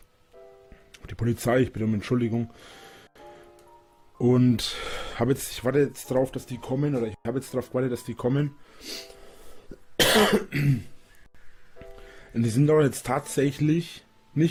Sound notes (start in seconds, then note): 9.7 coughs